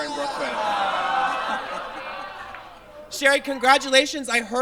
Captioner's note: audience groans